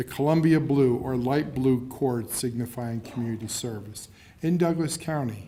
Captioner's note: laughing